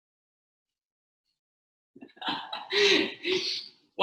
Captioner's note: laughing